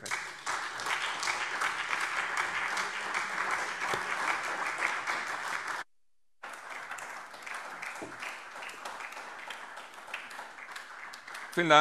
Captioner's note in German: Lebhafter Beifall SPD